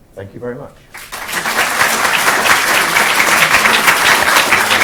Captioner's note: audience applauding